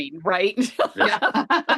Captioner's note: laughter